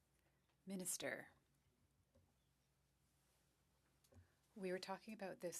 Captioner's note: speaking French